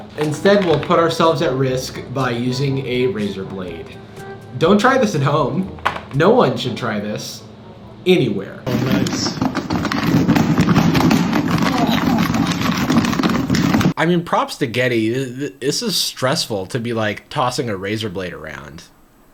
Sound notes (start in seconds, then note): 8.7 bowl rattling